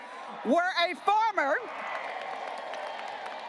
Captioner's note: graduates applauding